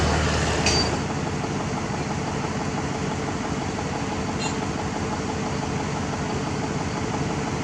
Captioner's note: engine Rev